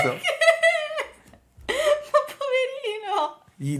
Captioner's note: laughing